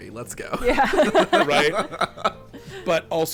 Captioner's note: everyone laughing